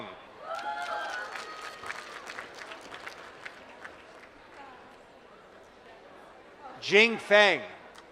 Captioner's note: applause